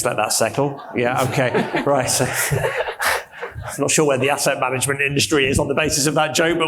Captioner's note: panelist and audience laughs